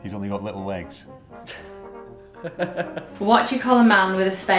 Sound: laughs

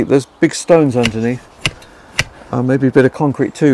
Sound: shovel thumping

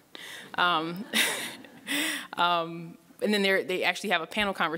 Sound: laughing

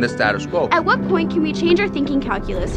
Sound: voiceover

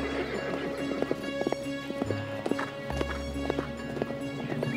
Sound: horse neighing

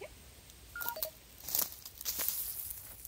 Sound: device chirps

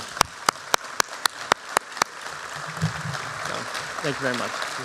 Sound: applause

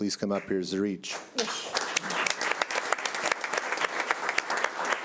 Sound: audience clapping

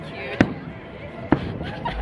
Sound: fireworks blasts; laughs

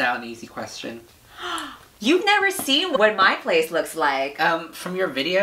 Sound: gasps

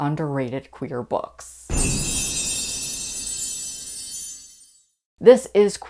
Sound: loud Chimes

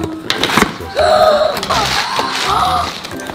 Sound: gasps

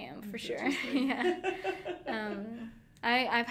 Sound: laughing

